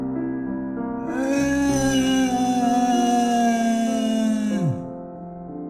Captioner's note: cries